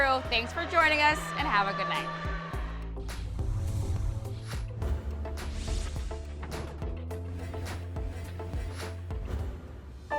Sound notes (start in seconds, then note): 3.6 scene whooshing; 5.8 mellow electronic music